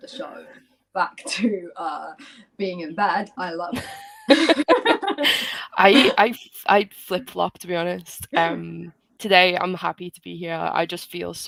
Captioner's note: laughter